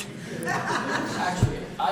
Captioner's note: audience laughs